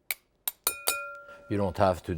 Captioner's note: glass dings